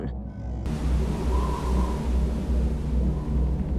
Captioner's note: wind whistling